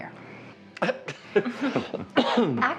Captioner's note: Larry laughing